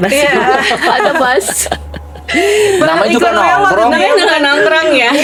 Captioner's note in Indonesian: tertawa